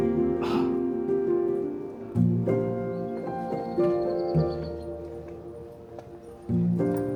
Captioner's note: tears